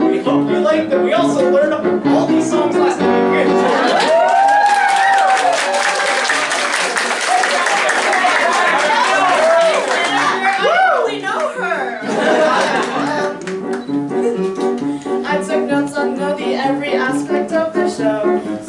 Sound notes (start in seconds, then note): 3.7 cheering, applause; 12.0 laughter